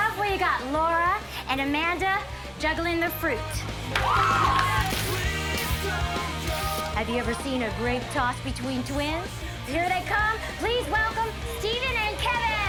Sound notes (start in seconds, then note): 3.9 audience cheering